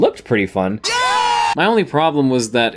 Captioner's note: Jimmy Fallon screams in an overly-excited manner